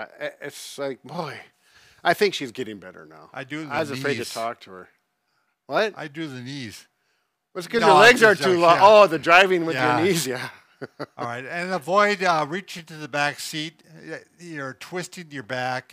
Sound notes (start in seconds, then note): 10.8 laughs